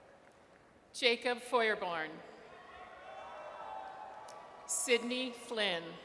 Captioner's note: audience cheers